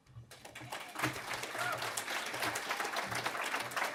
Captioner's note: audience applauding